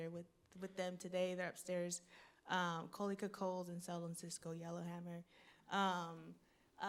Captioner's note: speaking foreign language